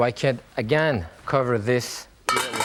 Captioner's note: lid clatters